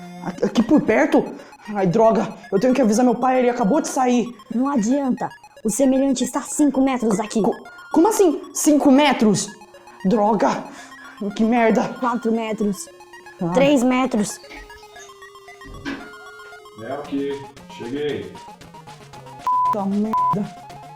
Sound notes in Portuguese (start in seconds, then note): 15.6 Porta abrindo